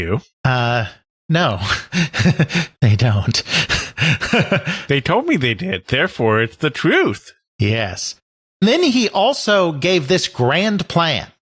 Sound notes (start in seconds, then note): 1.3 nervous sounds; 3.4 nervous laugh; 5.2 sarcastically